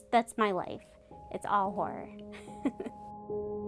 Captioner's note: laughs; ominous music